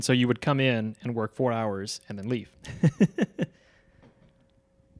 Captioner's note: laughing